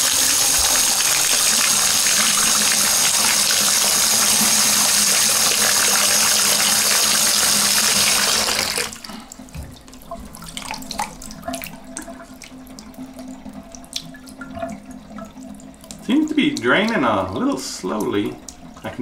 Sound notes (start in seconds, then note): 9.3 water drains